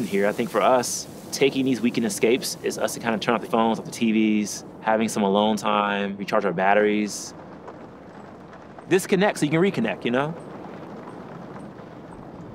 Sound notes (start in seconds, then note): 7.6 rain pattering